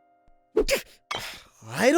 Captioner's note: strained yelp